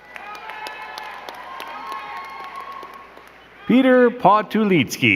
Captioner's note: crowd cheering and clapping